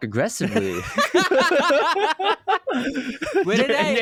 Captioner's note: laughs